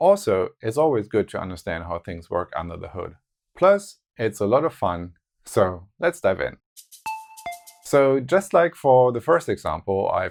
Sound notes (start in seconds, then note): 6.8 notes sound